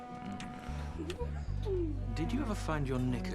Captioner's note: woman giggles